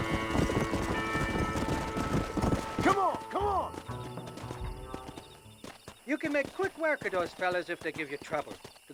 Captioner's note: none